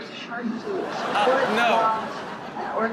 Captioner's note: audience awes